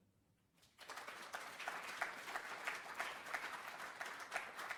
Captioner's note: applause